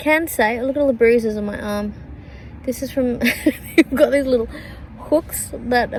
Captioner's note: chuckles